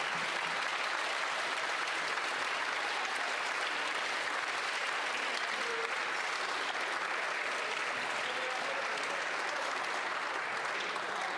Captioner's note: applause